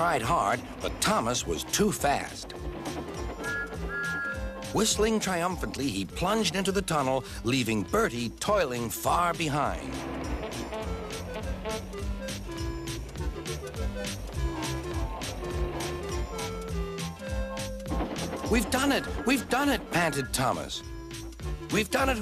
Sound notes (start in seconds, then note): 3.4 whistles; 10.2 honks